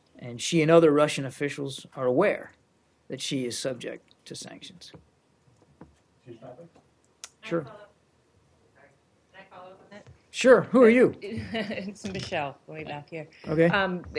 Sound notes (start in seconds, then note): 11.4 laughter